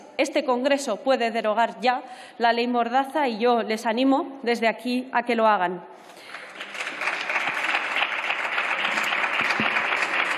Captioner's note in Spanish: Aplausos